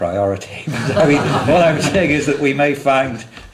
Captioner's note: laughter; laughs